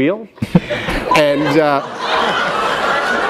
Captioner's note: laughter